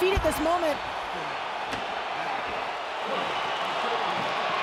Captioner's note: crowd cheers